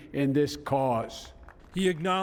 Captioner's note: cheering and applause